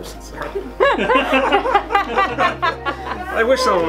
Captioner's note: laughter